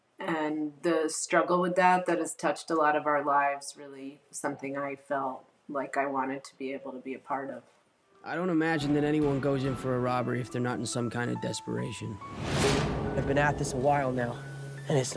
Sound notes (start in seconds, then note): 12.2 light whoosh